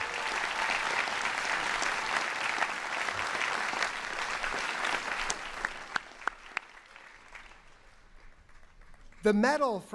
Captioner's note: cheering and applause